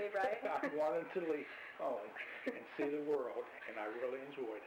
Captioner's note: both laugh; both laugh